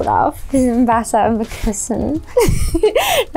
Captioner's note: laughs